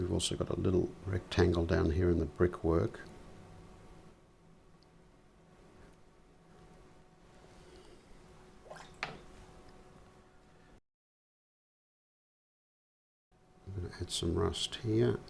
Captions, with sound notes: We've also got a little rectangle down here in the brickwork. [silence] I'm going to add some rust here.